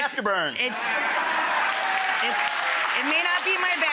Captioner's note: audience laughing and applauding